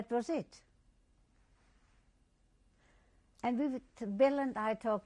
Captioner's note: pauses for 3 seconds